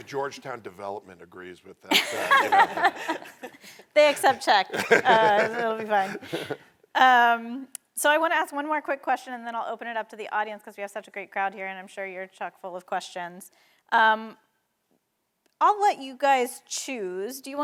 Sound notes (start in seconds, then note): 1.9 all laughing